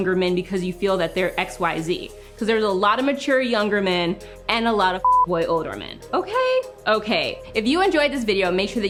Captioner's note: beep